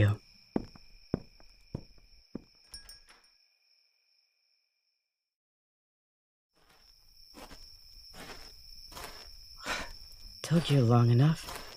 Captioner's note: nighttime ambiance